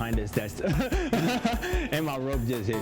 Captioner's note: laughs